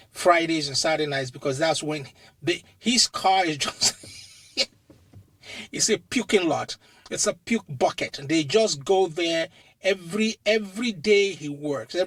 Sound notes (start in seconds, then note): 3.7 laughs